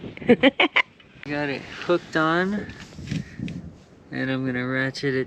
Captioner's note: giggle